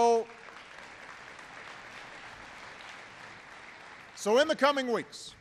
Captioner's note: applause